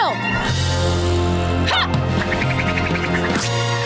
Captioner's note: grunting